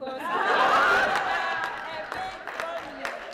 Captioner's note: laughter